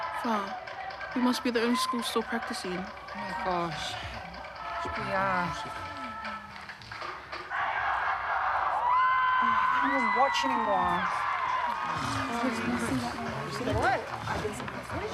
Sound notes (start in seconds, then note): 7.5 performance ends, loud cheering